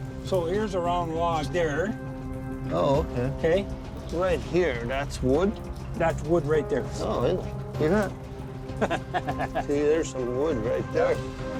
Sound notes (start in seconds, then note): 8.7 laughs